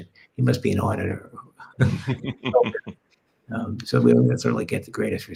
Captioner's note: all laughing